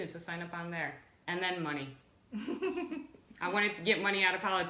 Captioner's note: laughs